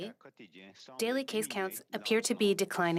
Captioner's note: speaking French